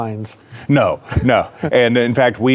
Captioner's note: laughs